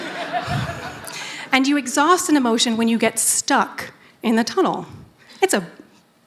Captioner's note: laughter